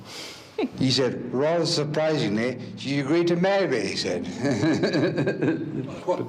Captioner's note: laughs